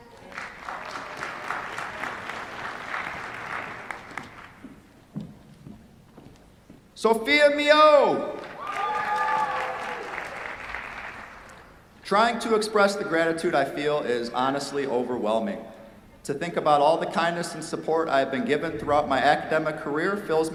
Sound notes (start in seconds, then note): 0.0 applause; 8.4 cheers, applause